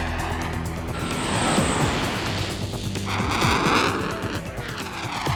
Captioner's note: aircraft engine roaring